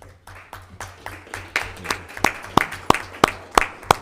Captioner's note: audience clapping